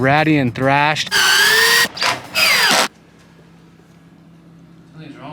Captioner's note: drill whirring